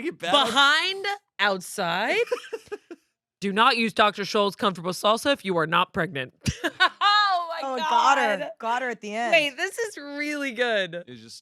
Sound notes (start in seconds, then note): 6.5 laughs